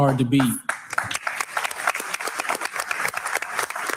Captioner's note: all clapping